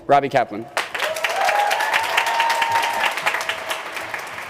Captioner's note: crowd cheering